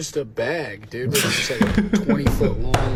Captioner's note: Dan and Phil laugh